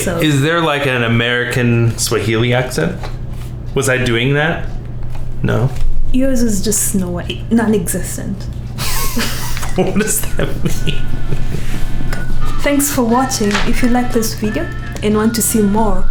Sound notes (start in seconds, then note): 8.8 laughing